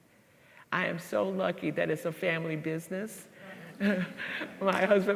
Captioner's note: laughs